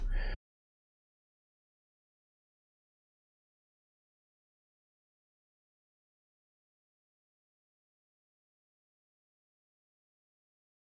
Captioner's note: silence; silence